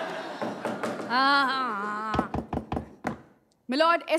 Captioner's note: Gavel bangs